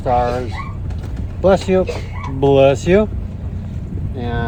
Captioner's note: sneeezes